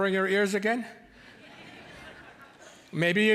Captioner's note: audience laughing